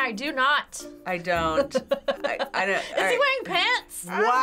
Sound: laughing

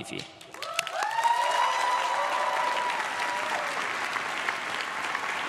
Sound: crowd claps and cheers

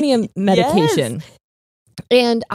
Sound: laughs

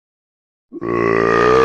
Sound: burp

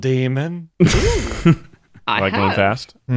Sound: laughing

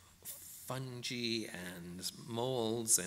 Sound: none

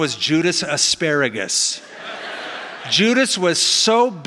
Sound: laughing

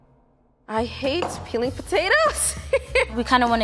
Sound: laughs

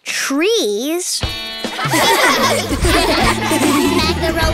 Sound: giggling

